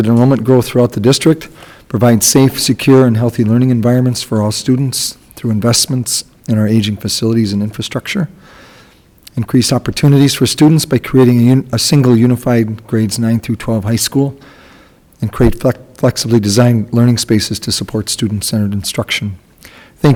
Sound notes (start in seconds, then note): none